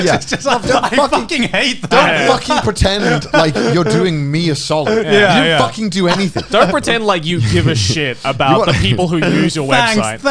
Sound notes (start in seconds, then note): 5.0 affirmative murmuring; 10.0 all laughing